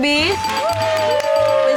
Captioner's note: bell dinging; applause